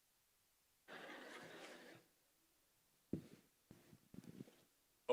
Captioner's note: laughter